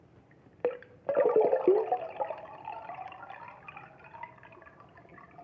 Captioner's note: water sloshing